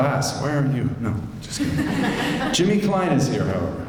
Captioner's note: laughter